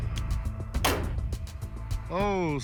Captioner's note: gunshot